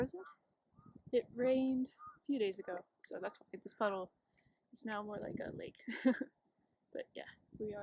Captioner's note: laughs